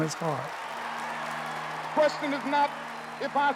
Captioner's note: applause